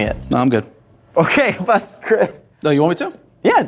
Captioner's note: mumbles in different language